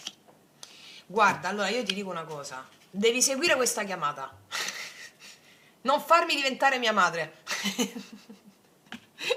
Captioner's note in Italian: risate